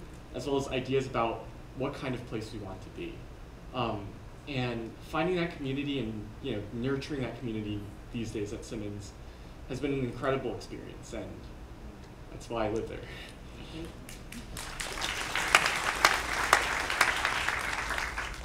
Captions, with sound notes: as well as ideas about what kind of place we want to be. And finding that community and nurturing that community these days at Simmons has been an incredible experience and that's why I live there. (applause)